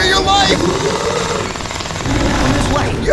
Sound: gunshot firing

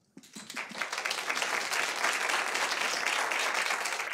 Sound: audience applauding

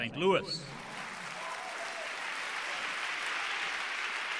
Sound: applause

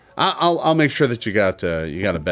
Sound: none

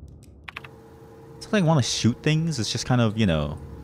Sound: none

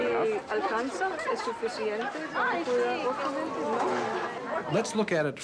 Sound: speaking in a foreign language

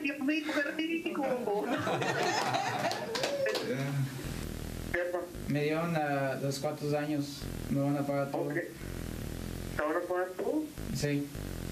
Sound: speaking spanish

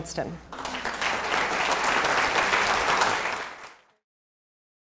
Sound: applause

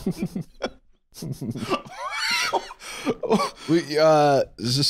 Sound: laughing; wheezing

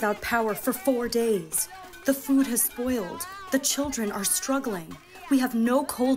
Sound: chanting

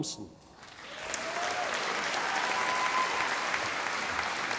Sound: audience applauding

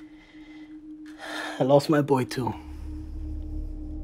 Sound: sighs

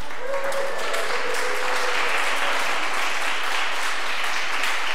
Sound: audience applause

